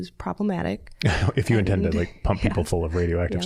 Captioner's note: chuckling